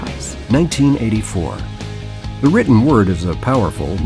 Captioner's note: voiceover